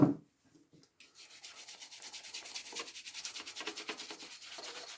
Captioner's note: brush scratching